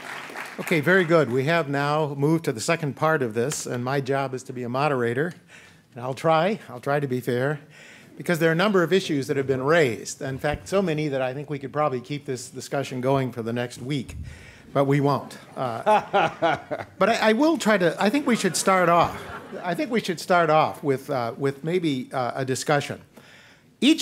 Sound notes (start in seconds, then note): 15.3 laughter